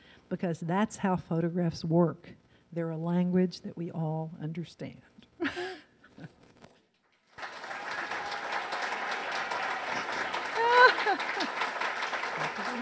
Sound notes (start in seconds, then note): 4.8 laughs; 7.3 audience cheers